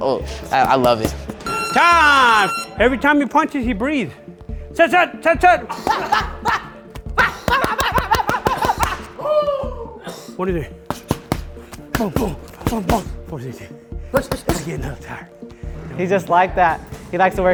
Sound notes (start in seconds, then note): 1.4 loud beep; 4.9 shouting; 5.6 breathing heavy